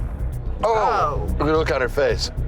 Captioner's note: men grimacing